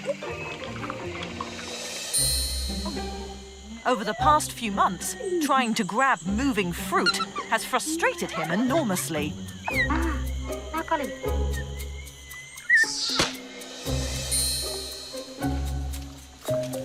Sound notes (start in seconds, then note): 2.1 bright upbeat music; 9.7 babysitter speaking in foreign language; 14.0 upbeat music